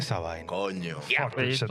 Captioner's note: speaking In Foreign Language